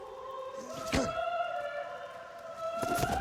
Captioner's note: groans